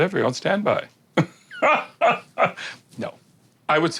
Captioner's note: laughs